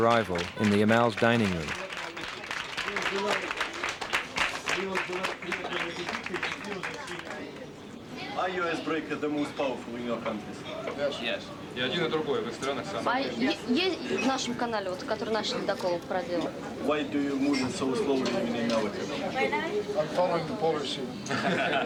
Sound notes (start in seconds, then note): 2.9 children applauding; 12.0 russian officer speaking in Russian; 13.2 russian woman speaks Russian; 21.2 all laughing